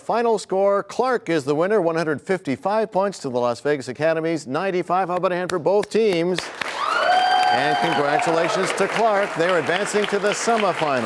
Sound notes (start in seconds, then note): 7.8 applause